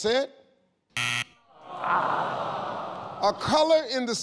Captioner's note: scoreboard buzzes, audience oohs